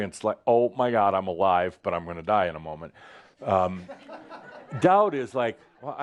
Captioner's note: some chuckles